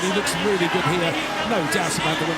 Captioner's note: applause